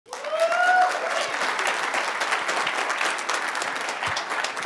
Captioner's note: cheers, applause